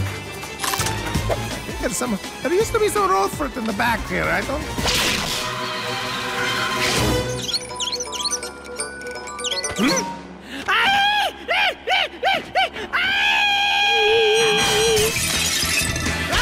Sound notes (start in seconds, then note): 7.2 mouse squeaking; 10.9 screaming